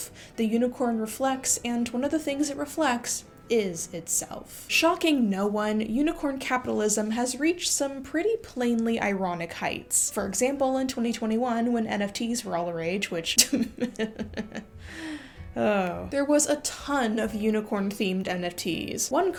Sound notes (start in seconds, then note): 13.4 ironic laughter